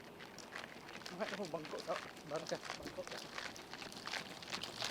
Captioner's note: speaking in foreign language; feet tapping